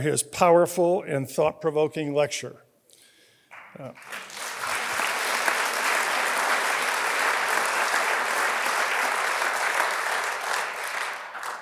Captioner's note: applause